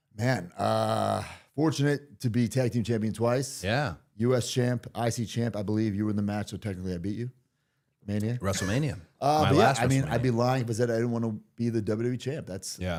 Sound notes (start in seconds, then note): none